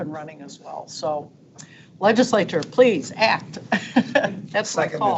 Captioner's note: laughs